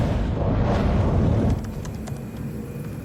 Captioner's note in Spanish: pitido